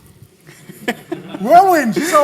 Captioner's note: laughter